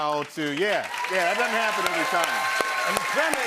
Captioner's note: cheers and applause